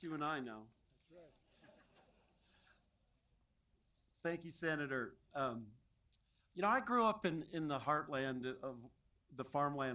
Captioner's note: applause